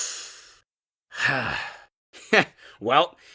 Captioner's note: sigh